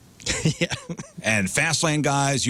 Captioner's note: laughing